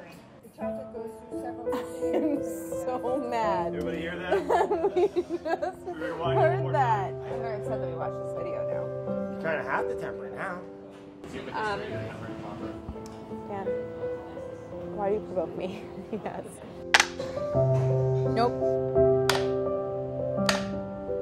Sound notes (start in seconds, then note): 0.3 gentle music; 16.9 smacking; 19.3 smacking